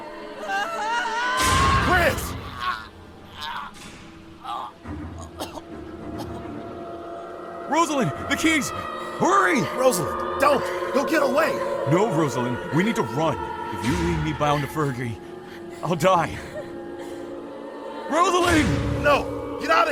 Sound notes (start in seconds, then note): 2.6 gunshots; 4.0 screams; 9.2 panicked gasping